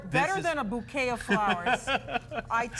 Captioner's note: laughter